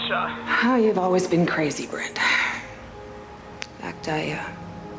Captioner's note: sighs